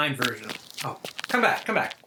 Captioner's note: footsteps